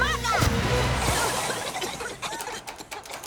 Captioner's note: coughing